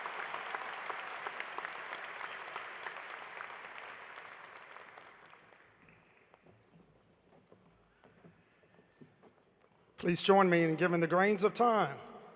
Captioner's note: applause